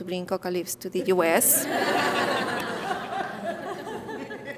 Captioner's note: audience laughing